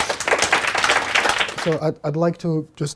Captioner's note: clapping